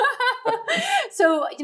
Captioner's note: laughing